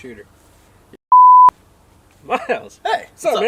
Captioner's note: beep